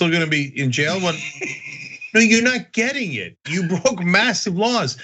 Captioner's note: laugh